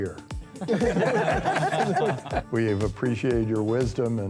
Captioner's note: laughing